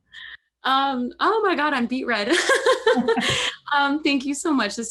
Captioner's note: laughing